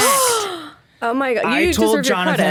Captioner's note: gasps